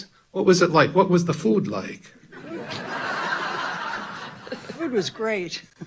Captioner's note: audience laughing loudly; laughing